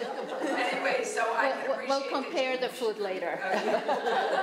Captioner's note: crowd comment